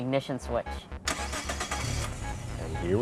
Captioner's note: engine starts